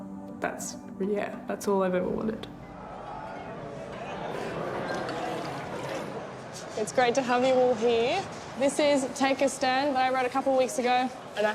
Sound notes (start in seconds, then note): 3.3 patrons chatting; 5.1 beer splashing